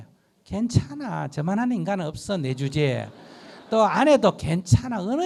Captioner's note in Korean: 청중 웃음